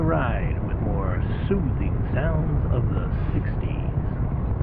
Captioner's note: radio